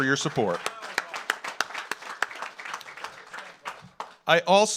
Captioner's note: audience applauds